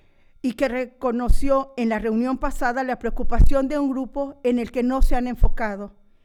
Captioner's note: continues speaking in foreign language